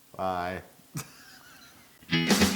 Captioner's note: laugh